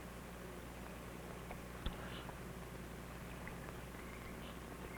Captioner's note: birds chirping